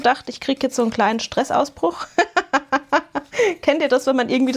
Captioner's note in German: gelächter